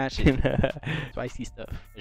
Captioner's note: laughs